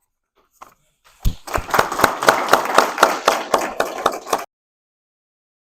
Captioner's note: applause